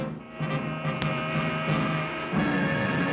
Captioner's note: horn honking